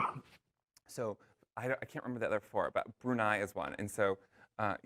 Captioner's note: cough